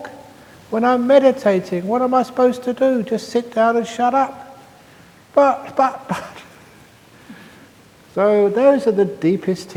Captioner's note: chuckle